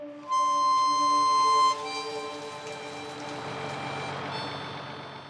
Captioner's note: water splashing; tractor rumbling